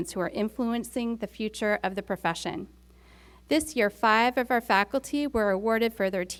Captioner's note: none